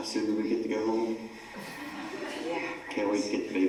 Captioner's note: laugh